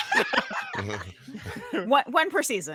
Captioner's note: group laughing